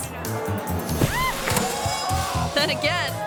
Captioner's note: person thuds and screams